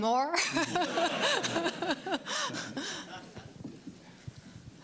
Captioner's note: laughter